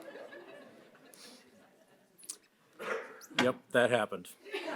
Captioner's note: audience laughs